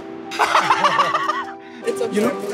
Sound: laughter

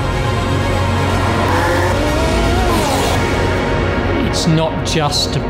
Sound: intense orchestral music; engine roaring

